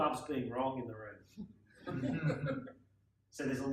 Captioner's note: laughing